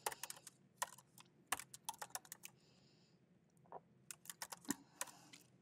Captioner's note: keyboard clacking continues